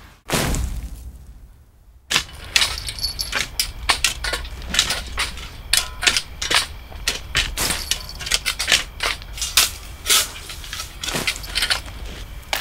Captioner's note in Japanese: 土をスコップで掘ってかける音